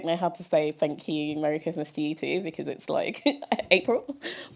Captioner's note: laughter